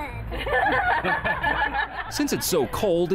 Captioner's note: people laughing